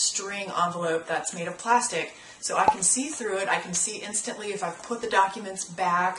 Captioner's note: pop